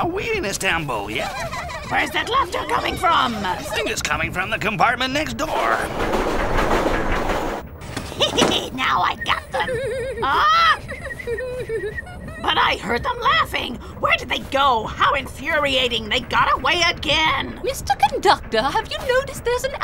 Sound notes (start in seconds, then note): 1.2 girls giggling; 10.6 whistling